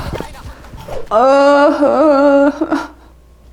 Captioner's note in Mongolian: уйлах